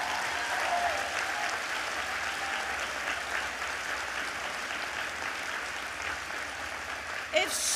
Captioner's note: applause